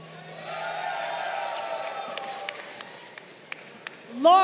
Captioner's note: crowd cheering